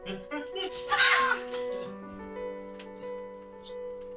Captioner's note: gentle orchestral music; all laughing